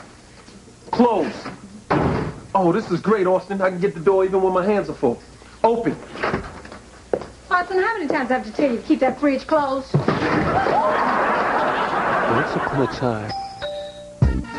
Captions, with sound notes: CLOSE. I CAN GET THE DOOR EVEN WHEN MY HANDS ARE FULL. OPEN. AUSTIN, KEEP THAT FRIDGE CLOSED. WHOO! ONCE UPON A TIME... [DOORBELL RINGS]